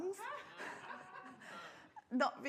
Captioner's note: audience laughs